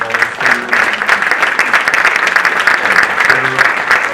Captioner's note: audience applauding